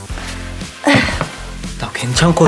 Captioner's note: sigh